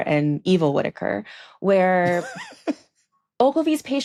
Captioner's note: laughs